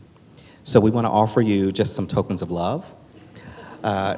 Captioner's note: laughs